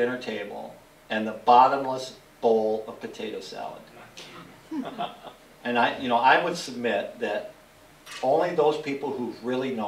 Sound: laughter

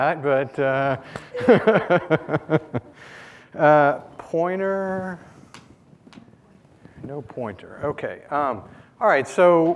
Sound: laughing

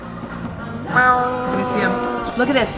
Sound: grumbling

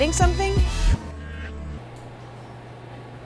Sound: dramatic sound effect

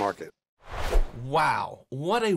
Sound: air whooshes

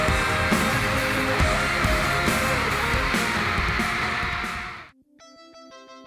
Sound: and their loud cheers

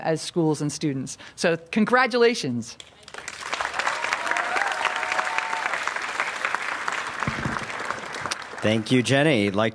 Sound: applause

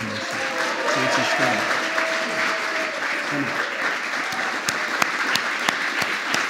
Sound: applause

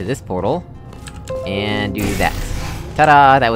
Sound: Windows 10 Notification Sound

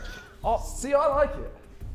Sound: Vikram chuckling

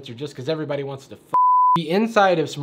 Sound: beep

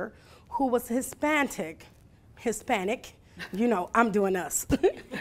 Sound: laughing

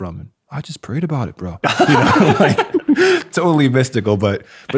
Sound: everyone laughs

